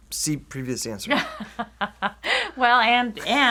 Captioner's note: chuckles